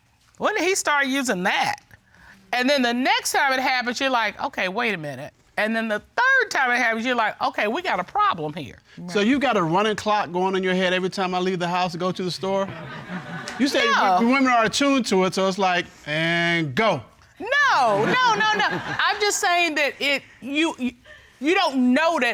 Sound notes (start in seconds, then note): 17.8 audience laughing